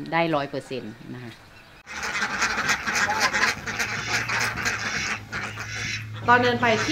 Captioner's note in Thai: เสียงเป็ด